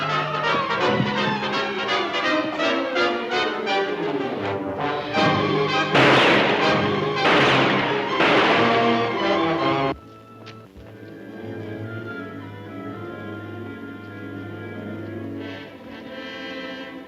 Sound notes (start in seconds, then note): 5.2 gunshots firing